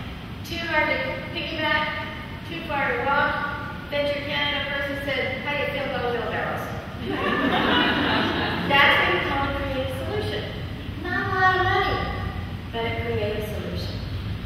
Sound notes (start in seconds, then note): 7.0 laughing